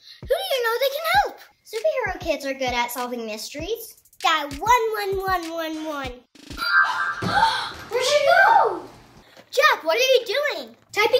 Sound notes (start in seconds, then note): 6.6 chime; 7.2 kids gasp